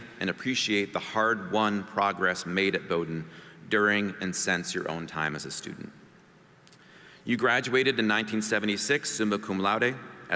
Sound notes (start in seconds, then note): none